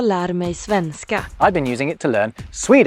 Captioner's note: in Swedish